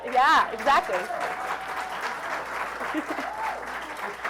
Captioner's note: applause